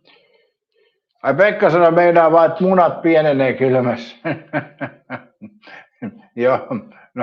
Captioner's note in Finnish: naurua